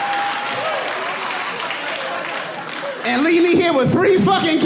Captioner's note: audience laughing